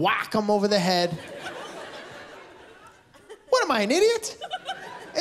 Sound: laughter

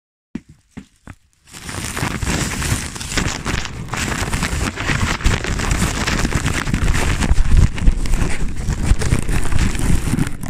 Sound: rustle

